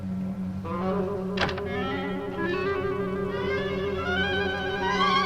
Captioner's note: suspenseful orchestral music; door closes